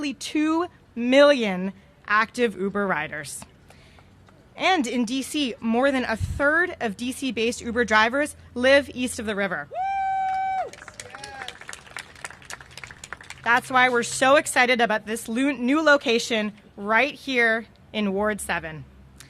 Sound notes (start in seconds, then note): 9.8 cheers and applause